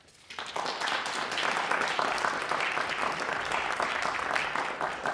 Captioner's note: applause